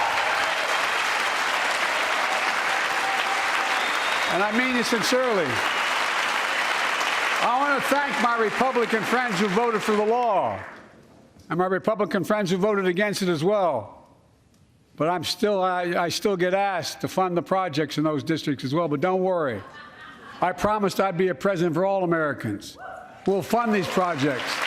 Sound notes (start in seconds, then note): 6.2 cheers and applause